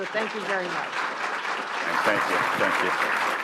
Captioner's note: applause